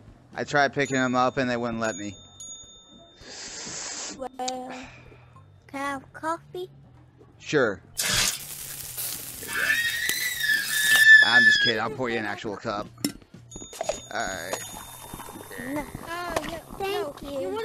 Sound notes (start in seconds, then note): 7.9 sizzle; 8.0 splash; 9.4 screaming